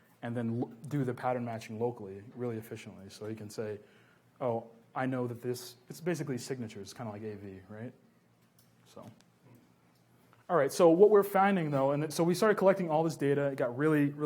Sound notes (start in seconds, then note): none